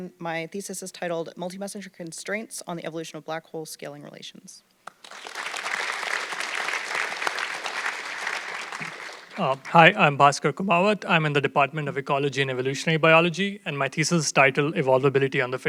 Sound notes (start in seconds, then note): 4.8 audience clapping